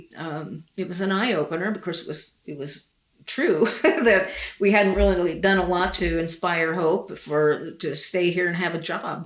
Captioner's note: laughs